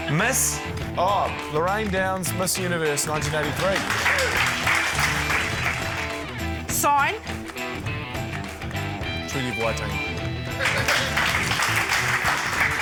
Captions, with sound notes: - Miss. - Oh, Lorraine Downes, Miss Universe 1983. (APPLAUSE) - Sign. - Treaty of Waitangi. (APPLAUSE)